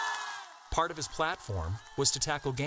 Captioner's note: crowd cheering